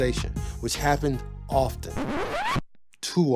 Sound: record Skip

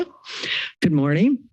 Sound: inhales

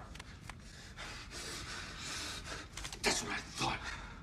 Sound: deep breathing

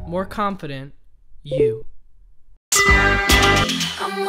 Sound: notification bell chimes

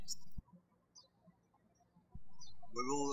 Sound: birds chirping

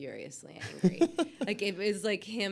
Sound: Alexis laughs

